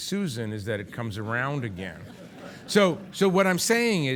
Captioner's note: audience laughing